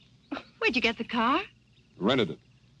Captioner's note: chuckles